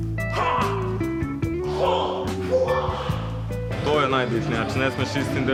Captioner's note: kung-fu noises